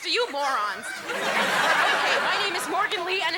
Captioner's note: audience laughing